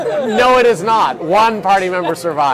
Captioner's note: laughing